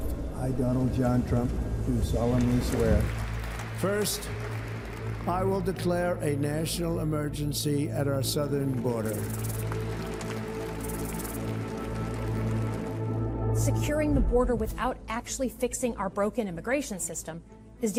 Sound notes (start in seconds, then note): 8.3 audience applauding; 9.7 tense music